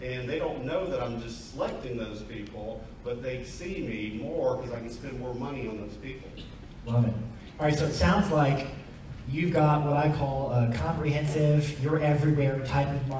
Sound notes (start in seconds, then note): none